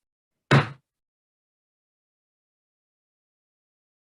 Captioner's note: gavel bangs